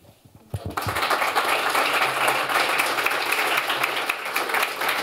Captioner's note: applause